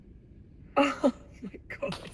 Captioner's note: laugh of relief